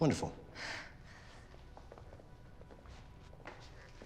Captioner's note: Scarlet sighs